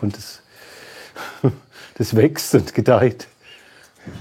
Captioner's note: laughter